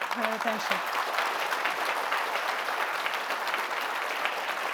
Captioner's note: applause